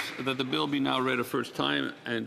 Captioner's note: applause